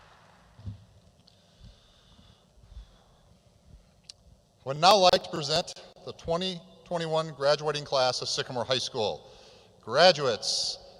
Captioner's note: applause